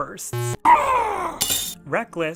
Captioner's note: angry scream; glass breaking